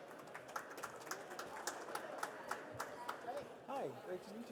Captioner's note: participants applauding